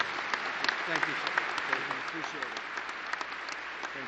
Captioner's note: applause